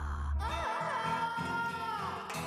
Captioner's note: wailing